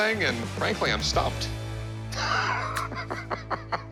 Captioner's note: laughs